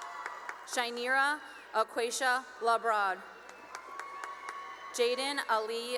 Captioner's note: cheering and applause